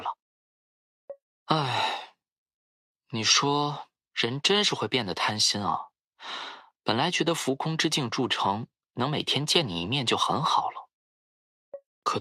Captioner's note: sigh